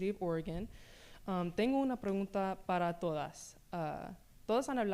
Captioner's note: speaking spanish